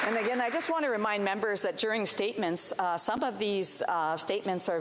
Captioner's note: applause